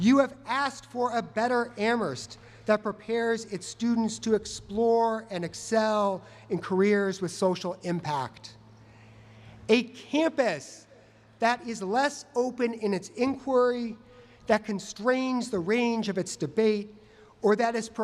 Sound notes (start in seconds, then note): none